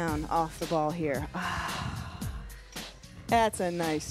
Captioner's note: sighs